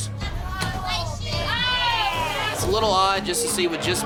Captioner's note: crowd chattering